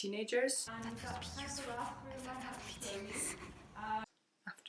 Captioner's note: whispers